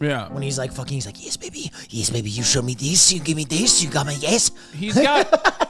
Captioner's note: laughs